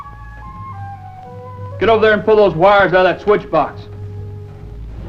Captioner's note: speaking German